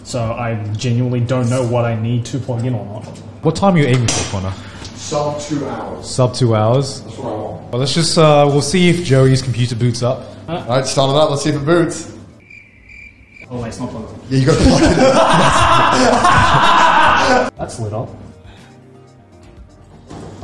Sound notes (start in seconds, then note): 12.3 crickets chirping; 14.5 laughs